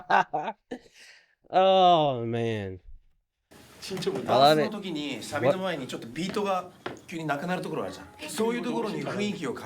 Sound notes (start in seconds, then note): 0.6 laughing; 5.3 speaking in foreign language